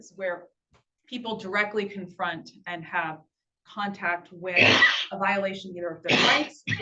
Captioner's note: person coughs